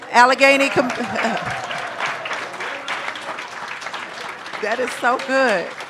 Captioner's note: attendees applauding